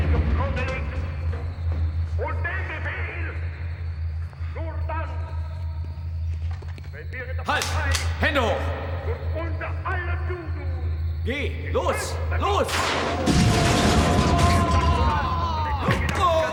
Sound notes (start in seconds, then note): 2.9 speaking german